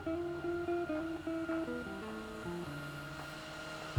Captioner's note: gentle music; machine whirring